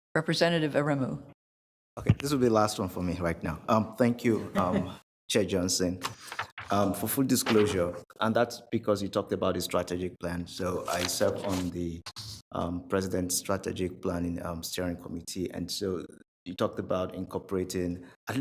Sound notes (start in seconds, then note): 4.2 laughs